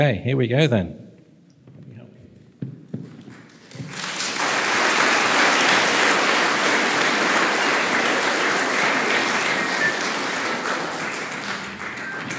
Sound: applause

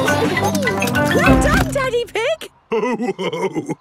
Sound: laughing; giggles

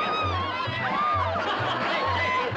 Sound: women screaming; laughter

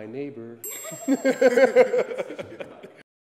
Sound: laughs

